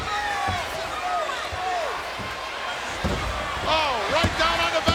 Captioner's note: person thudding